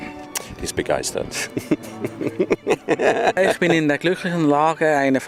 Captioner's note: laughs